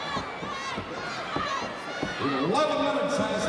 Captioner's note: crowd cheering